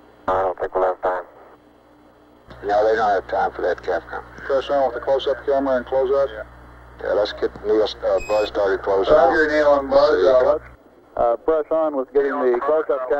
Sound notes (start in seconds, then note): 2.4 mission Control Audio